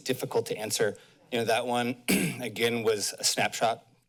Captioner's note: clears throat